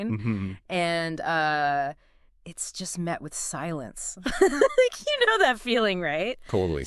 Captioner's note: laughs